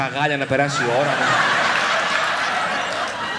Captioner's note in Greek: γέλια